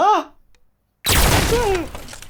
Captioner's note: door explodes; Kyle yelps, furniture falls